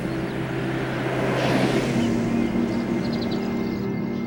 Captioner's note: car passing